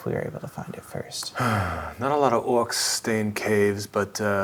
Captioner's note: sighs